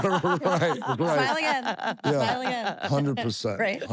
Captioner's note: laugh